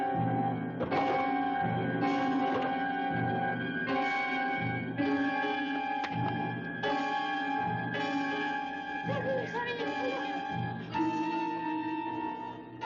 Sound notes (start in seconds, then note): 1.0 door rattling